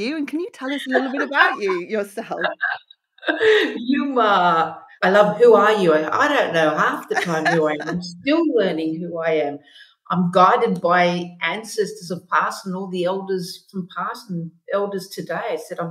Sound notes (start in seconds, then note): 3.2 laughing